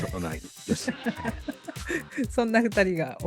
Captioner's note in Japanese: 笑い